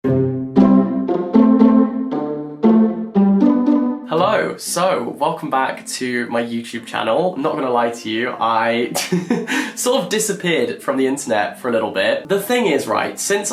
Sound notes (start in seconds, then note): 0.0 light music; 8.7 laughs